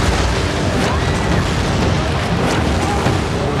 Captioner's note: screams